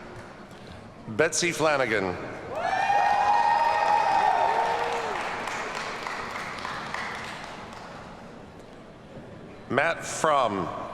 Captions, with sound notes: Betsy Flanagan. (audience cheers and applauds) Matt Fram.